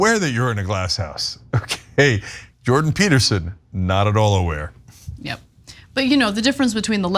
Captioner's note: laugh